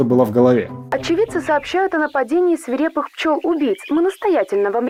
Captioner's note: voice of TV announcer